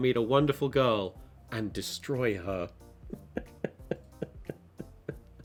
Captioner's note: laughs